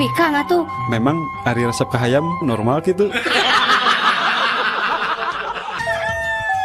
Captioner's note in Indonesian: tertawa